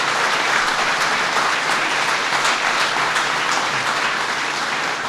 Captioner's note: applause